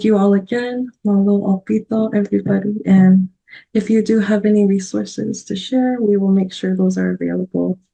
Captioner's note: foreign language 00:55:11